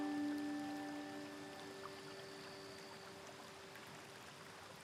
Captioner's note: soft instrumental music; river babbling